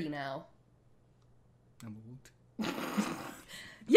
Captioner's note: snorts